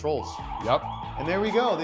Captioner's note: alarm sounding